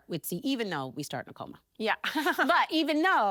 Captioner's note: chuckles